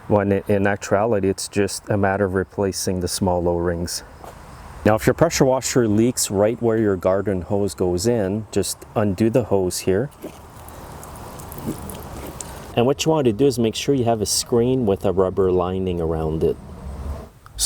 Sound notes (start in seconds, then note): 10.3 water leaking